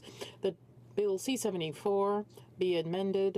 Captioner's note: speaking French